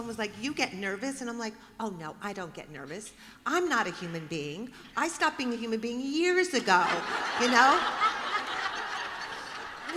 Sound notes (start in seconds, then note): 6.8 laughter